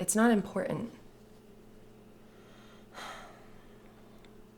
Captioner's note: sighs